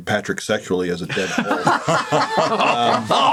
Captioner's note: all laugh